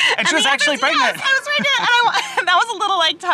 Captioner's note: chuckles